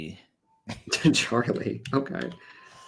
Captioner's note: laughs